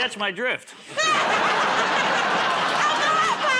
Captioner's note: laughter